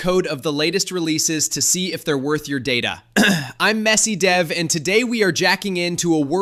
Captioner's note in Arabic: سعال